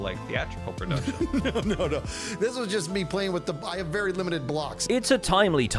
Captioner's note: laughs